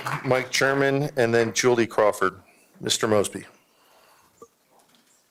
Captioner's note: applause